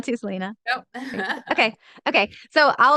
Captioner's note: laughs